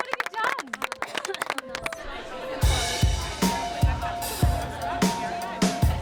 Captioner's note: applause; lighthearted music; people chattering